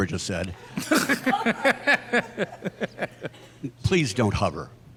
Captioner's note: panelists laughing